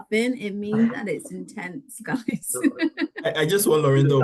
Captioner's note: laughs